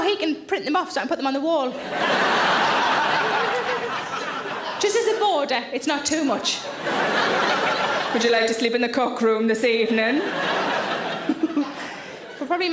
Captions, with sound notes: And now he can print them off so I can put them on the wall. (audience laughs) Just as a border, it's not too much. (audience laughs) "Would you like to sleep in the cock room this evening?" (Sarah giggles)